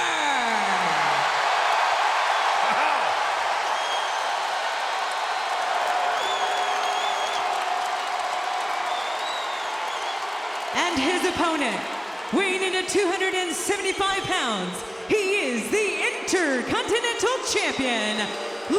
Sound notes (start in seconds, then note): 0.6 audience applauding and cheering